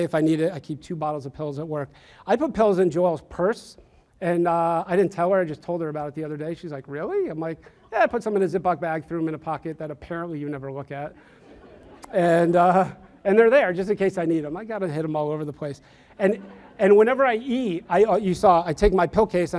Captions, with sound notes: if I need it, I keep two bottles of pills at work. I put pills in Joelle's purse, and I didn't tell her, I just told her about it the other day, she's like, really? I'm like, yeah, I put some in a Ziploc bag, threw 'em in a pocket that apparently you never look at. (audience laughs) And they're there just in case I need 'em, I got 'em hidden all over the place. And whenever I eat, you saw, I take my pill case